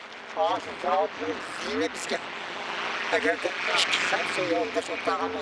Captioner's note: speaks in foreign language